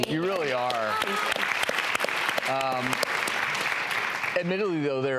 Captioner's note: applause